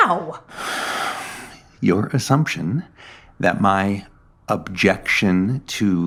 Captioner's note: sigh